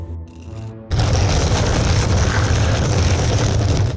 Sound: door rustling

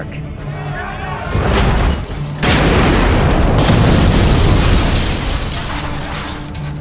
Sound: chaotic shouts, impact of airships, fiery explosion, airships crashing

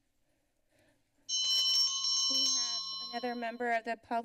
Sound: bell rings

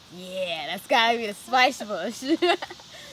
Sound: laughter

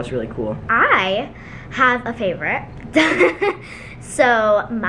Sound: laughs

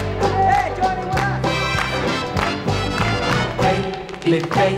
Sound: musicians clapping

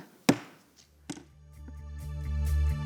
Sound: thump; laid-back music

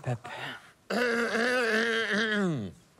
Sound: clears throat

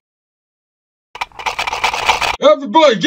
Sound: multiple guns cock

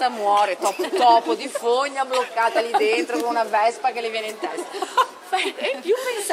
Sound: laughing

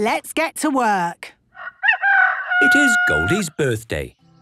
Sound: rooster crowing

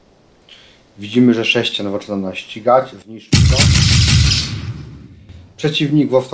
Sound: sound of the shot

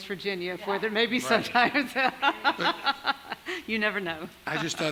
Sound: laughs

